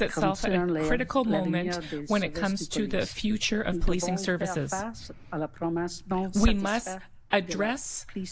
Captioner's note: speaking French